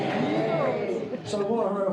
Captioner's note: crowd cheering